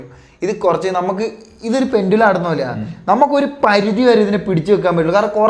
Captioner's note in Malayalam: തൊണ്ട ശരിയാക്കുന്നു